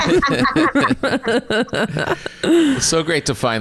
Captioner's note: all laughing